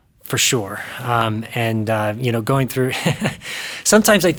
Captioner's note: chuckles